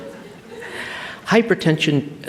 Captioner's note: laughter